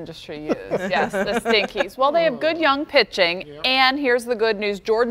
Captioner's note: laughter